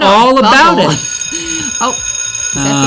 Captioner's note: bell ringing